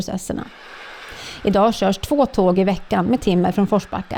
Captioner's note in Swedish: Tåg passerar